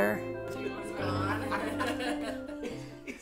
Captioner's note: family laughing